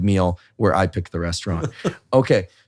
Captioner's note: chuckling